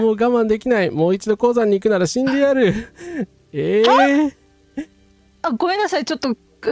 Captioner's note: laughs